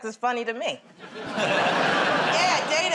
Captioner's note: laughter